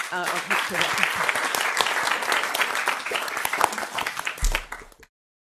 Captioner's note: audience clapping